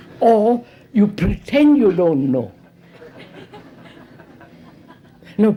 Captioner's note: laughter